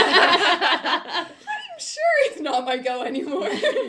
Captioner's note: laughter; laughter